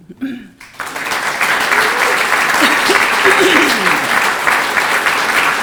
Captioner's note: audience applauding